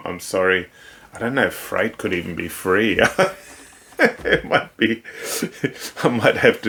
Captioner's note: laughs